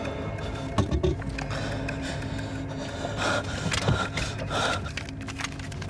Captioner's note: breathing heavily; suspenseful music